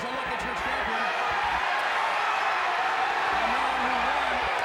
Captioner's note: fans shouting